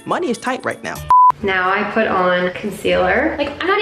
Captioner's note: beeping